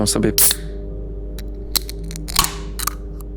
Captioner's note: sound of opening a can